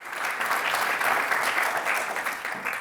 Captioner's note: audience applauds